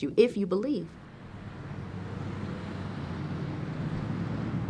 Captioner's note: car engine revving